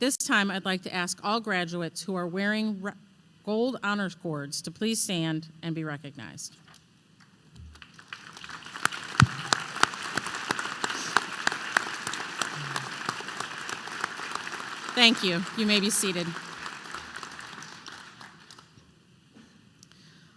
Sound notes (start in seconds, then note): 7.7 applause